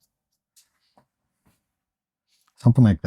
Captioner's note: silence